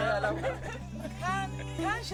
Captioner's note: speaking in french